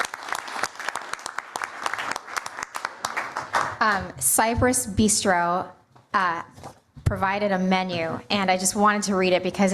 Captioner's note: applause